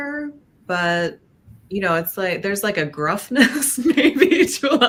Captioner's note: laughs